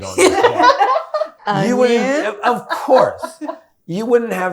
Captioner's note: all laughing